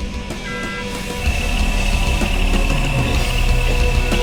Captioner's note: whirring